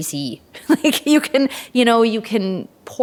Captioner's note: chuckles